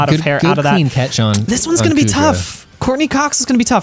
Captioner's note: pat